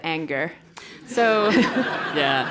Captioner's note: laugh